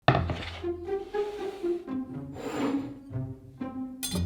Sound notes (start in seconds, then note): 0.0 board sliding; 0.1 quirky music playing in background throughout video; 2.3 bowl sliding